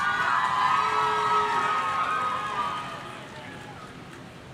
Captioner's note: audience cheering